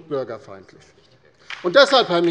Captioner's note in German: Beifall bei der LINKEN